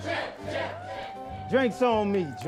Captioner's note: cheering